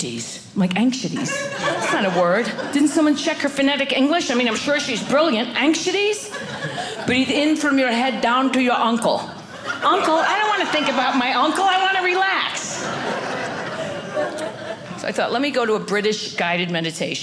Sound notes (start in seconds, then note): 13.3 audience laughing